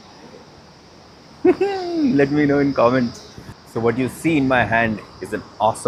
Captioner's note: chuckles